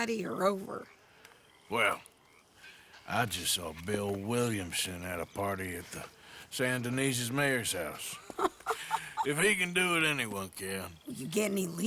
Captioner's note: Sadie laughs